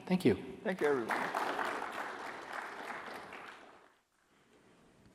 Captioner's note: applause